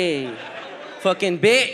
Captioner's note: audience laughs